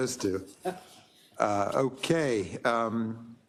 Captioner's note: laugh